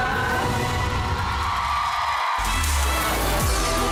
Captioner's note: applause; upbeat music playing